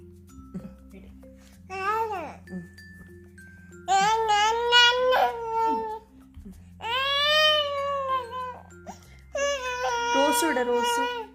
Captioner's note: baby sounds